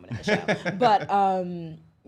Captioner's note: laughs